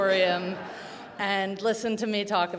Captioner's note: audience laughing